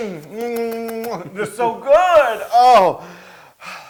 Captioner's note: laugh